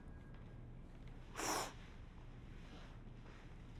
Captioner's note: sniffles